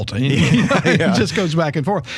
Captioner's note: laughing